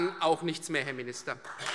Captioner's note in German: Beifall Freie Demokraten